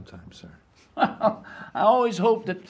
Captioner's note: laughing